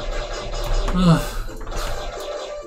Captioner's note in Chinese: 喘一口氣